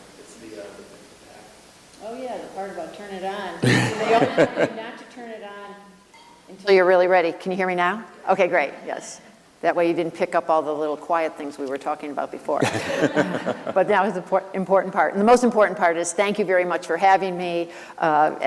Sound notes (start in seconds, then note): 12.6 laughter